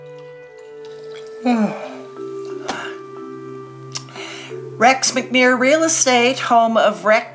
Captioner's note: yawns